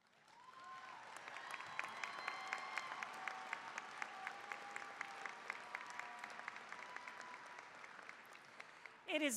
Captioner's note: applause, cheering